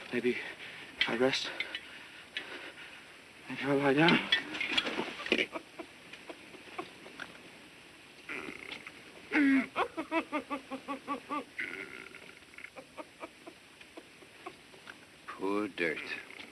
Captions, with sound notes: Maybe if I rest? Maybe if I lie down? [SOBBING] Poor dirt.